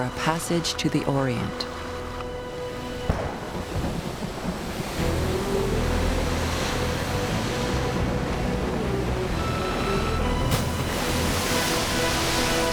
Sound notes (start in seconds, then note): 3.0 thunderclaps